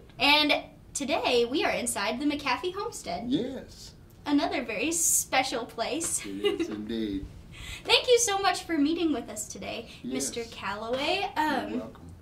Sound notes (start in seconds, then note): 6.2 laughing